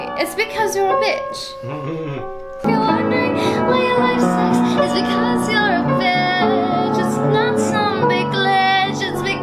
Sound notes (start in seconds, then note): 1.6 man chuckles